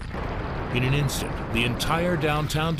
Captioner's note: flames crackling